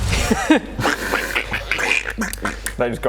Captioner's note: quack quack; quack quack quack